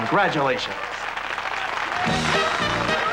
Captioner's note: applause